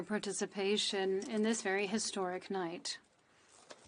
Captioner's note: speaking French